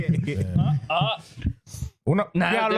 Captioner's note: laughing